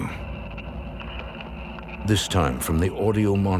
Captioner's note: scratching